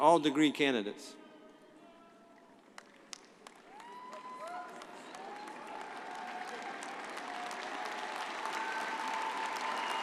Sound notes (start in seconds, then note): 2.7 audience applauding; 3.7 audience cheering